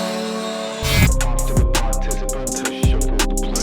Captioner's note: robotic Voice